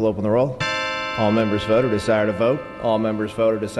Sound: bell

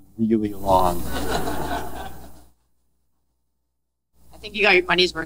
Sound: audience laughing

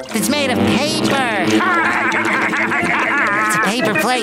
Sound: laughing

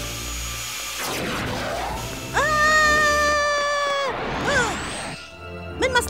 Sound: plane sounds; screams

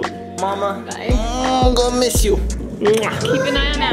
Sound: groans; lips smacking

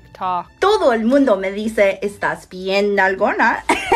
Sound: speaking Spanish

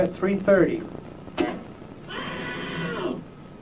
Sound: shock and man screaming

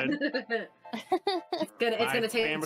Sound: laughing

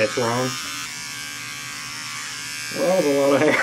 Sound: razor buzzing

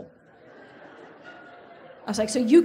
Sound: audience laughs

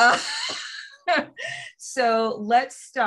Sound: laughter

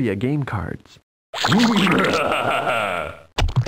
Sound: PURPLE GLOP laughs

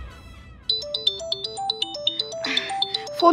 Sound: phone ringing

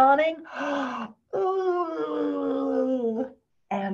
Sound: yawns Loudly

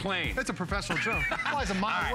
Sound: laughter

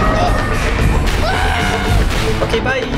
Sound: cheers and laughter; screams

